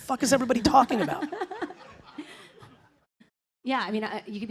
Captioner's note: laughter